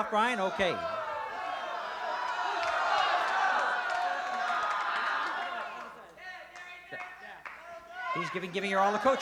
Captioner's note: crowd shouting